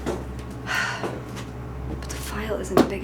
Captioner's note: sighs